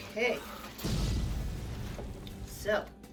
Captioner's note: explosion